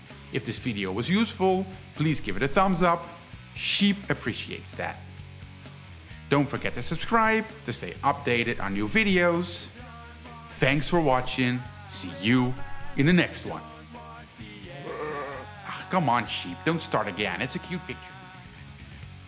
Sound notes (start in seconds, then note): 14.7 baaahh!